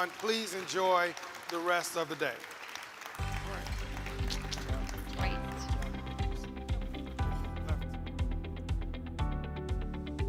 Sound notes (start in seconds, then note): 2.6 audience applauds; 3.2 upbeat music begins